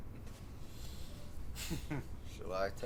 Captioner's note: chuckling